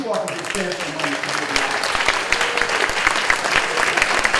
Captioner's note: clapping